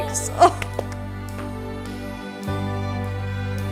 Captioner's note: claps